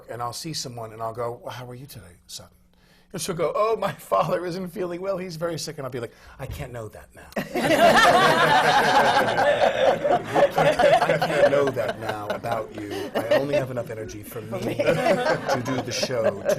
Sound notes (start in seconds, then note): 3.4 sobs; 7.4 laughter